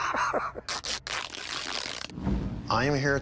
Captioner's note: laughing; fabric tearing sound